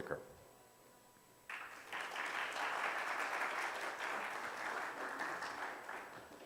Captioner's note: audience applause